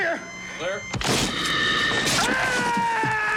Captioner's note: defibrillator crashing; monster chomping; white haired man screaming